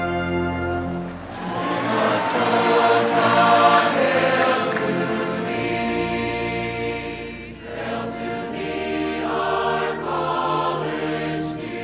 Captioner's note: applause